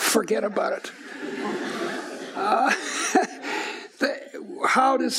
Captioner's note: laughing